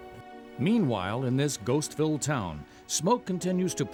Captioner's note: voiceover